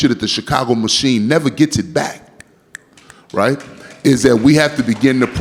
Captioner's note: audience clapping